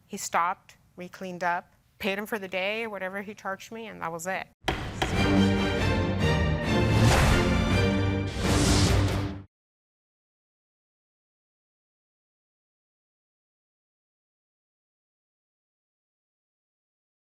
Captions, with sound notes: He stopped, we cleaned up, paid him for the day, whatever he charged me and that was it. (gavel knocking) (dramatic music)